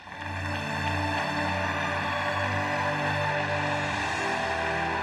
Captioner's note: audience applauds; dramatic music